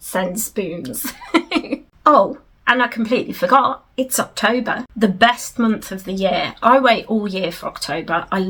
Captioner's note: giggles